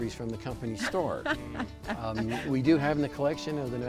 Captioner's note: laughing